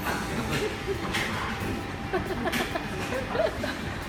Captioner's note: mom laughs dryly